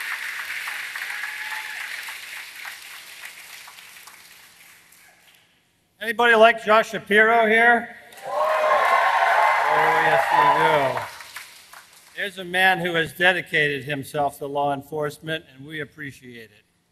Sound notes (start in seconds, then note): 0.0 applause